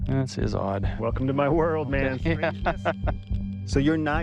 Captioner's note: laughs